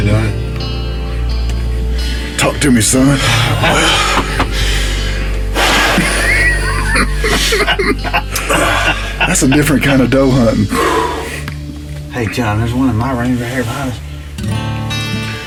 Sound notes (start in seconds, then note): 5.6 exhales sharply; 7.7 men laughing